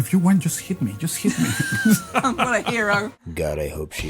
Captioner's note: Rowling laughs uncomfortably